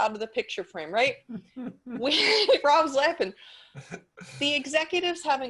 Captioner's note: laughs